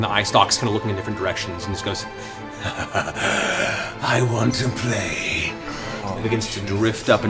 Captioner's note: laughs